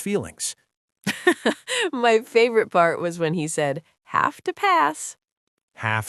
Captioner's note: laughing